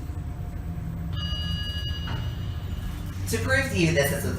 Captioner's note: ding